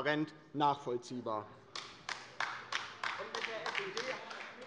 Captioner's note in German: Beifall bei der LINKEN